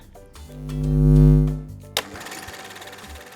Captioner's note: buzzing